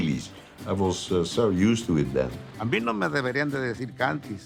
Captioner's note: in Spanish